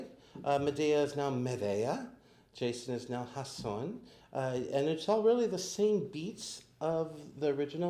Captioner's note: pronounces it in Spanish